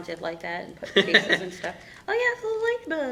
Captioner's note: laughing